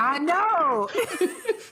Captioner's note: laughter